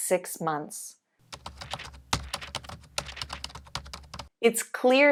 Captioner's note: paper tearing